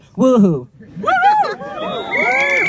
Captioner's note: crowd: "Woohoo!"